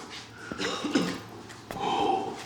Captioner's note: breathing heavy; coughing